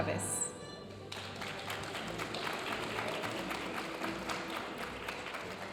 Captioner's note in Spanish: aplausos de la audiencia